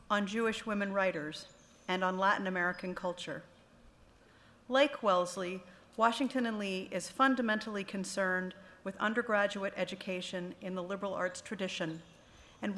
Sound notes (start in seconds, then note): none